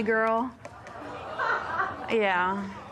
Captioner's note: audience murmurs